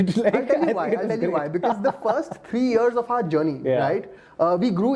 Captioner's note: laughs